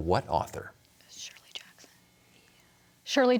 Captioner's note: whispering